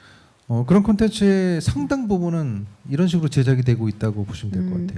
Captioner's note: speaking korean